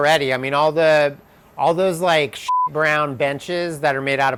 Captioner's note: beep